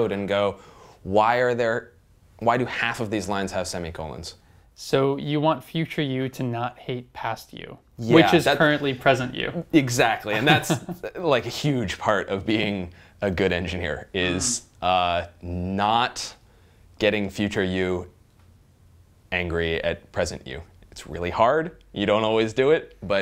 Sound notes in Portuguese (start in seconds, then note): 10.3 risos